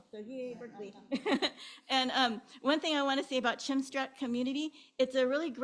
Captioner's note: chuckles